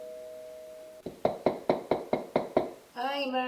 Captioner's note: doorbell; knocks on front door